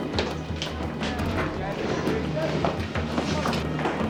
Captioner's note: indistinct chatter